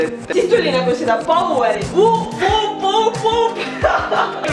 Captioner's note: woop-woop-woop-woop